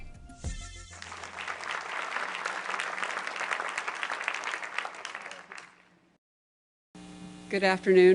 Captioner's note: applause